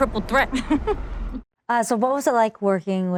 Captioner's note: laughing